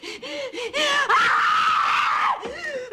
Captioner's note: screams